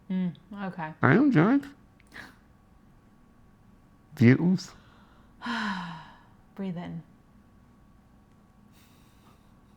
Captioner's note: takes deep breath